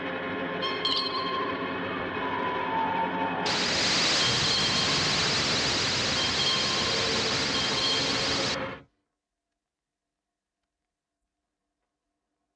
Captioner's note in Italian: urlo